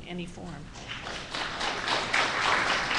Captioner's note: applause